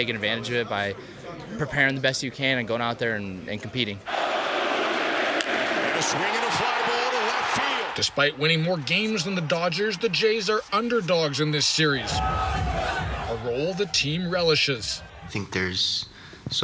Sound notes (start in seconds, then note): 10.4 cheers and Applause